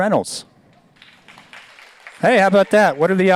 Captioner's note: audience applauds